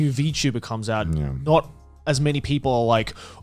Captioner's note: affirmative murmuring